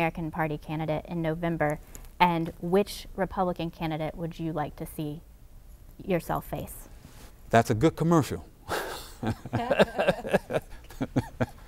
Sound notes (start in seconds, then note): 8.7 laughter